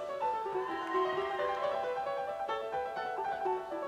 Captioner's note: audience cheers